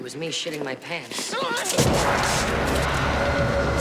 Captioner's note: yells